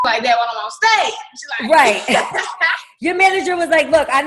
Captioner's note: laughing